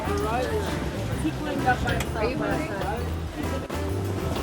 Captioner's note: people chattering